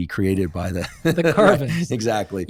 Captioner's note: laughter